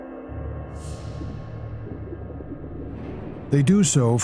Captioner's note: air bubbles burble